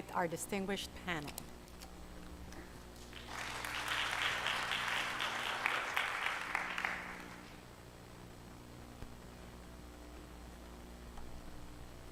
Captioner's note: applause